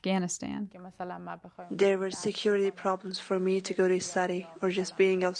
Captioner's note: through translator